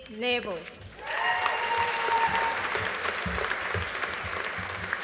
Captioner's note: audience applauding